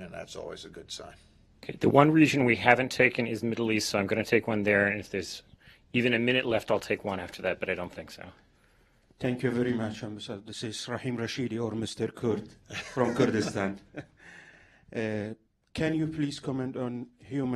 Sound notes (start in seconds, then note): 14.5 laughter